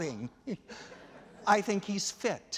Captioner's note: laughter